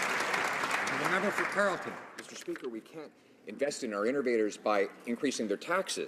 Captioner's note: some Applause